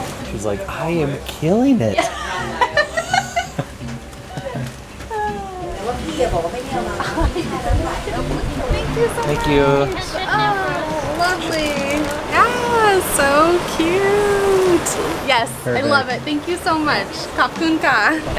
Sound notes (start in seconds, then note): 1.9 laughter; 5.0 sigh